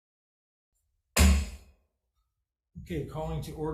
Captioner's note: gavel thuds